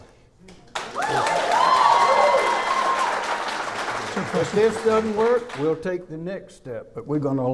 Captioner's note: clapping